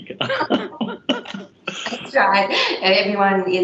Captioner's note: both laugh